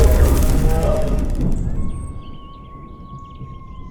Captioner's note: animal howl